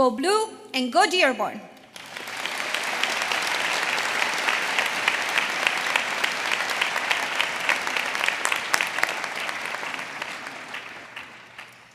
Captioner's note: applause